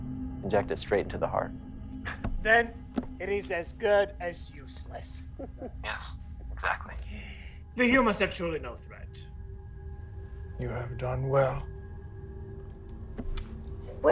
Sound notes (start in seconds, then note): 2.3 solemn music continues; 5.3 Marie chuckling; 10.3 solemn music continues